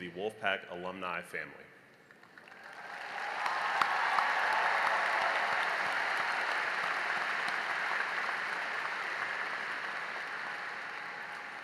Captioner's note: cheering and applause